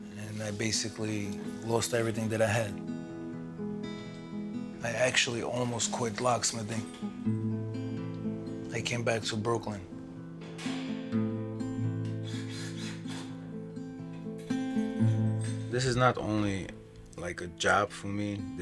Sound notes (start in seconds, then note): 12.1 drill whirring; 13.6 gentle guitar music continues